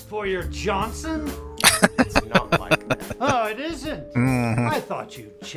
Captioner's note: laughing